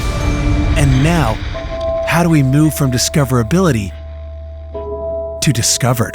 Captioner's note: upbeat pop music; voiceover